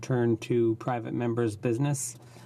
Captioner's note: speaking French